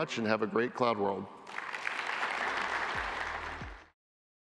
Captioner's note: applause